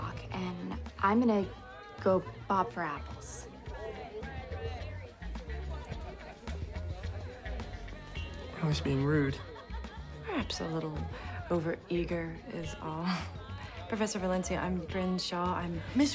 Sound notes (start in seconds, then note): 4.7 groovy music; 4.7 people chattering